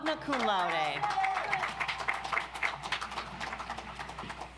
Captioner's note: audience applauds